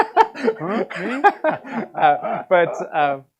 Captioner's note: laughter